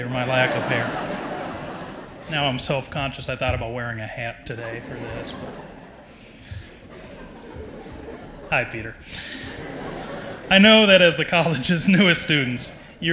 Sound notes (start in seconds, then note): 0.0 audience laughs